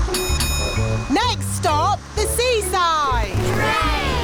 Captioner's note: bell dings